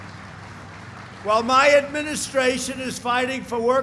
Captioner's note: applause